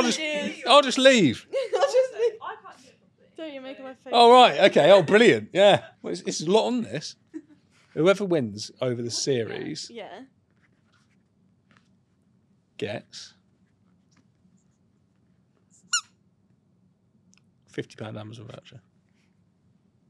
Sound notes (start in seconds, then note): 15.9 toy squeaks